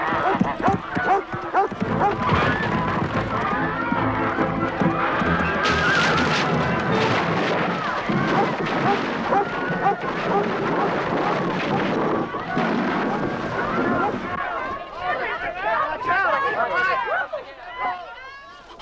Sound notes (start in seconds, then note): 5.4 beams snapping; 10.2 Beast barking; 15.4 townsfolk clamoring